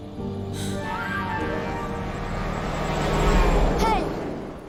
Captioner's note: horn honking